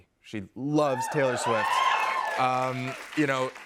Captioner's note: cheers and applause